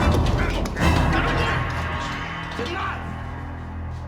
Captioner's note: grunting